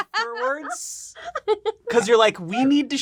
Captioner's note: laughing